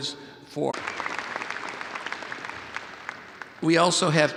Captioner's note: audience applauds